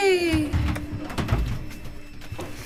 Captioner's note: metal clanking